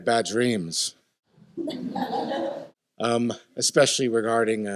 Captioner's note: laughter